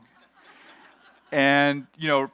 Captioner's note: audience laughs